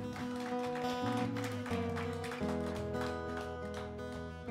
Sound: applause; guitar music plays

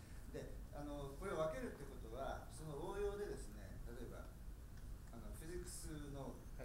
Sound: speaking in foreign language

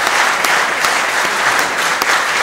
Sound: applause

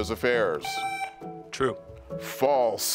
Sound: buzzer beeps

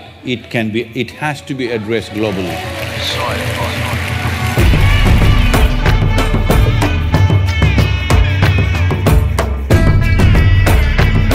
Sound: applause

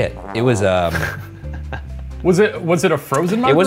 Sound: laughs

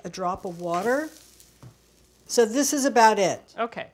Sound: wok sizzles

